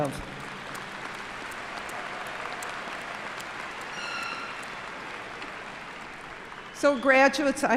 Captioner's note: applause